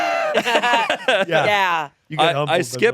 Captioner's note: everyone laughing